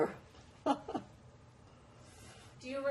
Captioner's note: laughing